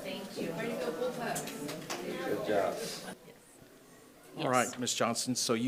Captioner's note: group chattering